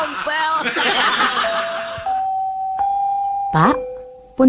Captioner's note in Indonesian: tertawa